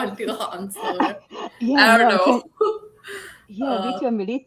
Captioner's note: laughing